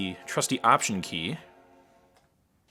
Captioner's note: startup sound